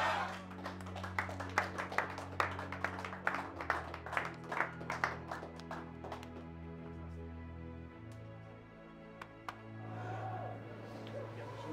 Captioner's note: applause